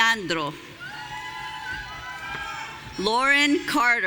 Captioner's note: audience cheering